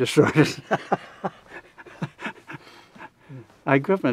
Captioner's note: laughs